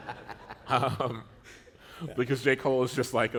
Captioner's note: laughter